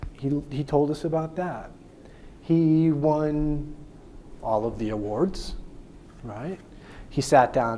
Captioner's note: none